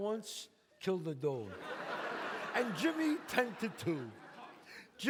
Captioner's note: audience laughs